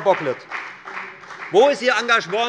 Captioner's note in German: Beifall bei der FDP